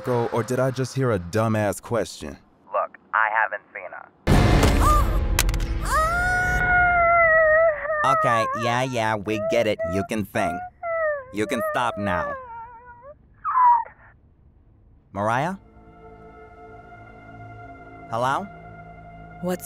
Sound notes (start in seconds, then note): 4.9 phone clatters; 5.8 Mariah groans; 15.5 eerie music